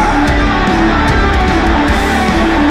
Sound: crowd

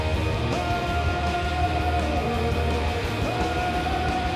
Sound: chanting

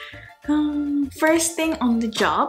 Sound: sighing

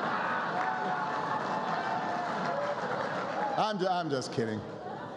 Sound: laughter and applause

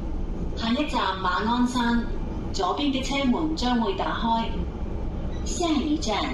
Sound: Cantonese; Mandarin

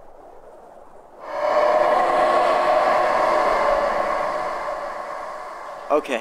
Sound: monsters howling

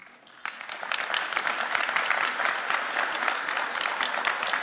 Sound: applauding

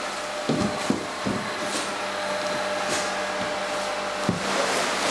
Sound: machine roar in the background

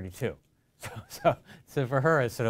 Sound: chuckles

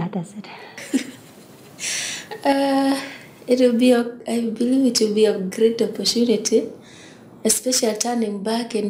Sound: laughs

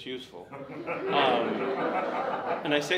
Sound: audience laughs

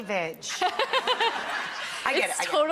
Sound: laughing

